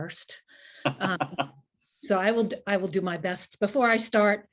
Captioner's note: laughter